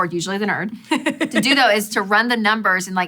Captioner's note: laughing